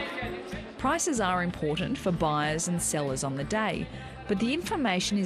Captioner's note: auction ambience